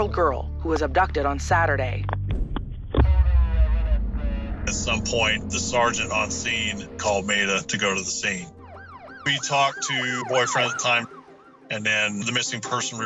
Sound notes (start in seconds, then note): 2.7 police radio chatter; 8.3 siren wailing